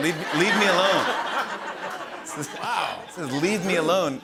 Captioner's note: laughter